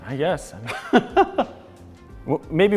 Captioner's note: laughs